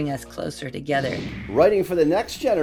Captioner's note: computer whooshing